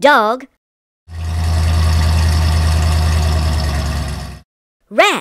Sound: engine sound

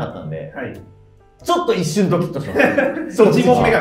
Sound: laughing

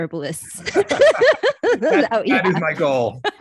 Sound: laughing

